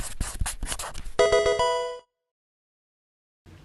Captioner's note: pen scribbling; pokemon game sound